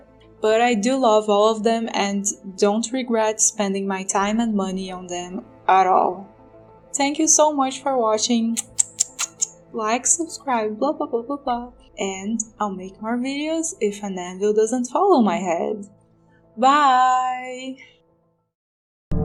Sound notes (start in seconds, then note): 8.5 kiss noises